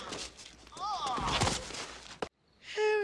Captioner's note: Marv grunts